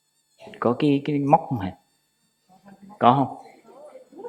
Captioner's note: Vietnamese